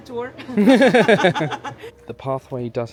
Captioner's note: laughing